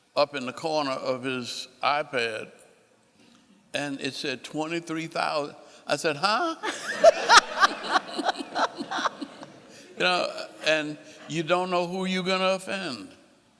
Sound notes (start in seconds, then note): 6.4 laughing